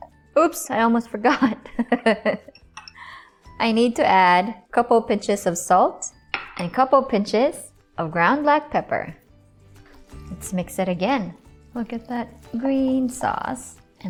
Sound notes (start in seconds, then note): 1.7 chuckles; 6.3 glass thuds